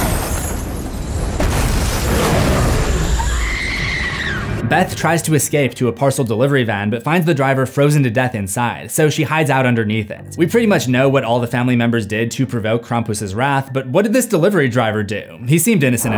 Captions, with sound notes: (SCREAMING) Beth tries to escape to a parcel delivery van, but finds the driver frozen to death inside, so she hides out underneath it. We pretty much know what all the family members did to provoke Krampus's wrath, But what did this delivery driver do? He seemed innocent enough,